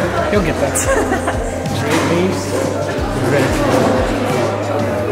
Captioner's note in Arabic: يضحك